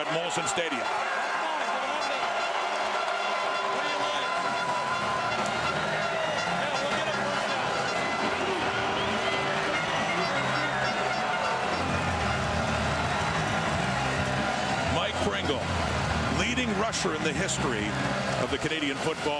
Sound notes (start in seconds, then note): 6.0 crowd Noise